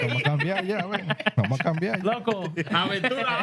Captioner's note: laughter; speaking Spanish; laughter